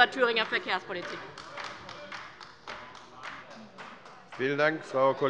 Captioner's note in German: Beifall bei der LINKEN